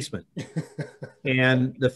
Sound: laughs

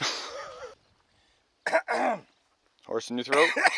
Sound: coughing

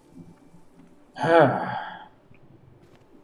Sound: sighs

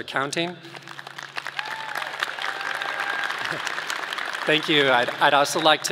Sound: audience clapping

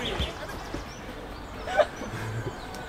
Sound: laughs

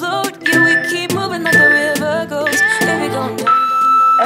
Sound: alarm beeping

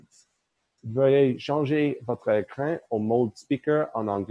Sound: speaking in French

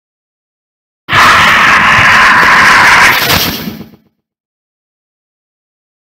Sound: sound of scream

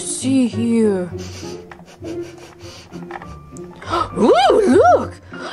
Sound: Scooby sniffles

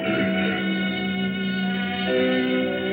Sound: none

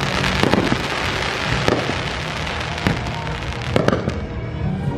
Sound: fireworks fizzling

